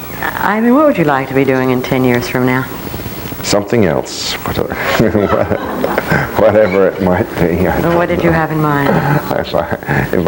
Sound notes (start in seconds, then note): 4.6 laughing